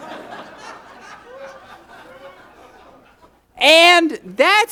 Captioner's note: audience laughs